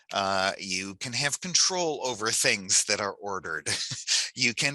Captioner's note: laughs